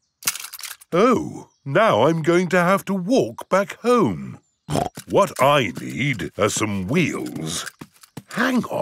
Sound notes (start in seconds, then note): 4.7 snorts